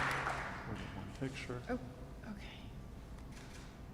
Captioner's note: audience applauding